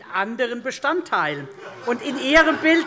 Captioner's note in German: Lachen Freie Demokraten